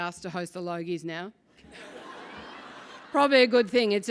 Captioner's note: laugh